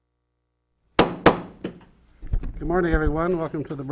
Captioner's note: gavel bangs